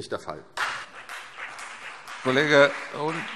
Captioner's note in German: Beifall CDU und BÜNDNIS 90/DIE GRÜNEN